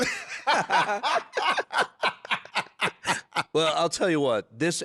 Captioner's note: laughing